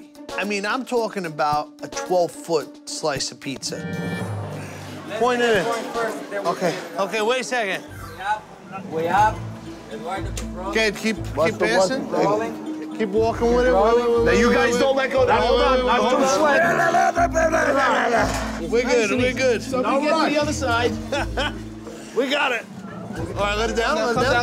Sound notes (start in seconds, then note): 16.1 grunting; 20.9 chuckles